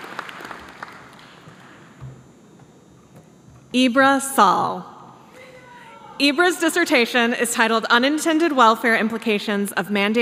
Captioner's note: applause